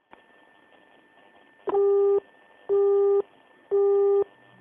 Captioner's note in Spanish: Tono de teléfono